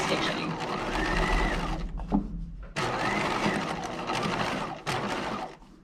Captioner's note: sewing machine whirring